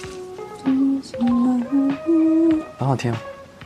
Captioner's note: humming